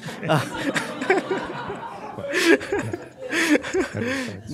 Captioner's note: laughs